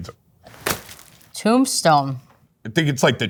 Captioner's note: plastic crinkles